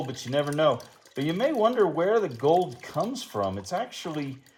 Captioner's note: water splashing throughout